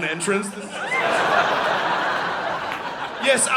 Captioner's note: audience laughing